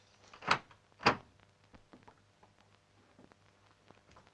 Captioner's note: door opens